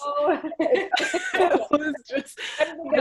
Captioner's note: laughing